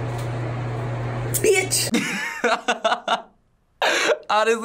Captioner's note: laughs